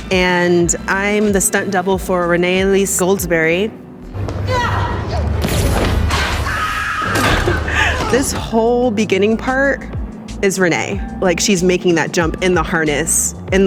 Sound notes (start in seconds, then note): 4.7 yelling; 5.7 high-pitched whooshing; 6.2 screaming